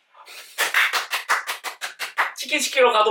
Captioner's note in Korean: 짝짝짝짝